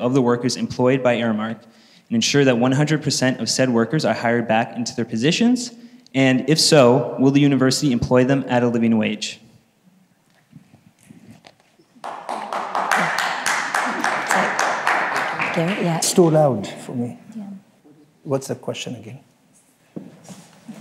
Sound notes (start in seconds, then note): 10.4 audience claps